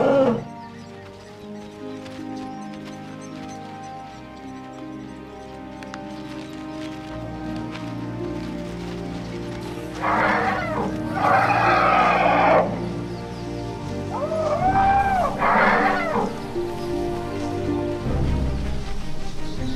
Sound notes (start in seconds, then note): 0.0 animals calling; 9.8 trumpeting; 9.8 animals calling